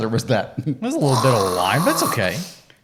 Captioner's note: imitates air blowing